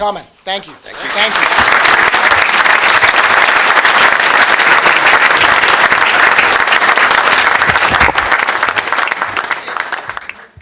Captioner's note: applause